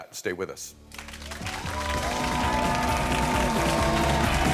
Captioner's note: crowd clapping